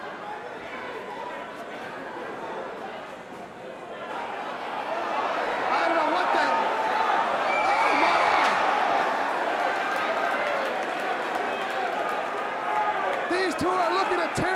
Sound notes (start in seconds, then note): 3.2 crowd chatter; 5.7 crowd cheering